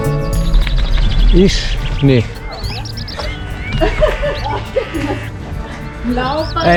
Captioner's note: laughs